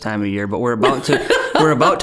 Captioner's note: laughing